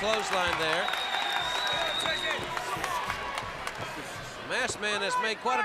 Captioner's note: crowd cheering